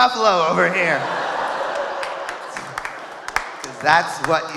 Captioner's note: audience laughing